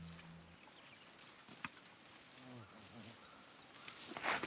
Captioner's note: rustling